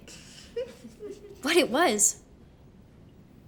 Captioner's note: kids snickering